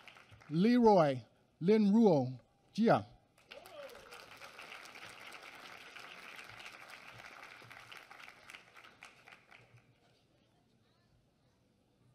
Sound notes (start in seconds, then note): 3.3 applause